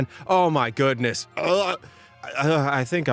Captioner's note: wretches